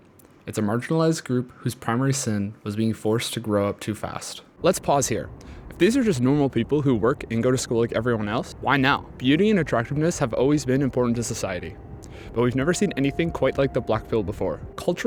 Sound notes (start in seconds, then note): none